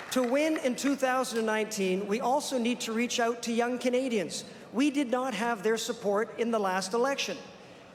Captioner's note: applause